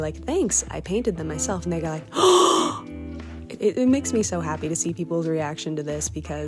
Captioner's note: exaggerated gasp!